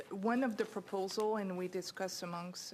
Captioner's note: speaking in French